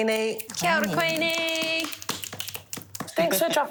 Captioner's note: claps and snaps